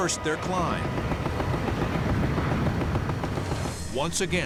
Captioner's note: gunshots